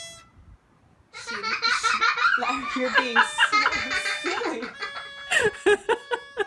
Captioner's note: laughs